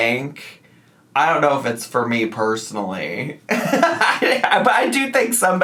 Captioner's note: laughs